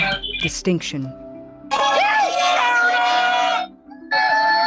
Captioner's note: cheering